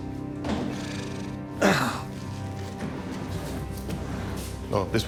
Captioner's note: grunts